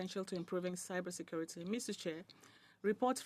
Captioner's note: speaking in French